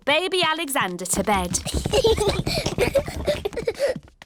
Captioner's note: children giggling